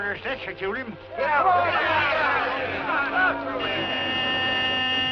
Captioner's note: shouting; horn honking